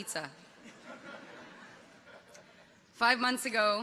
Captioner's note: audience chuckles